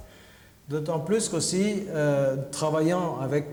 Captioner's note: speaking french